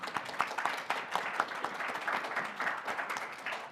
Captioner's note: applause